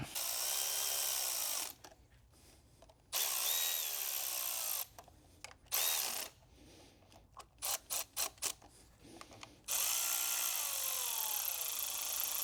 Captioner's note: drilling